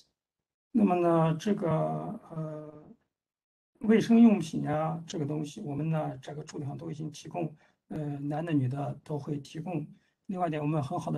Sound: speaks in Mandarin

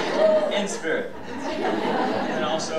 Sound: audience laughing

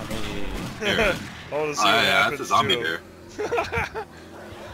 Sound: laughs

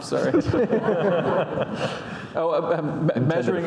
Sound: audience laughing

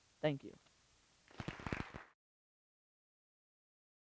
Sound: applause

